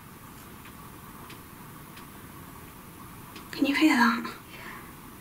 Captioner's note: quiet tapping